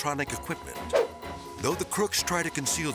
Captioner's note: transition whips